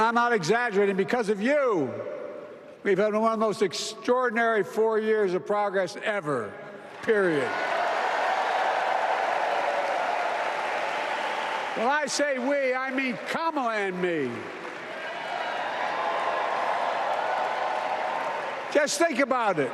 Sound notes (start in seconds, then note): 4.2 applause